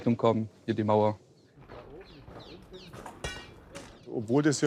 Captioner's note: distant conversation, metallic rumbling